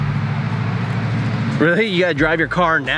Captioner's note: car driving